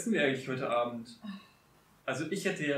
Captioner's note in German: seufzt genervt